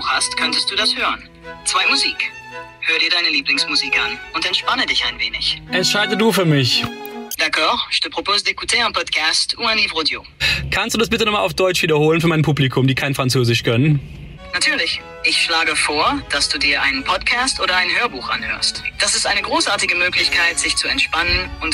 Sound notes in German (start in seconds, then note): 8.4 Spricht französisch